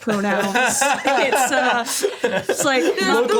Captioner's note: laughs